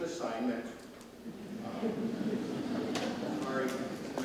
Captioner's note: audience laughs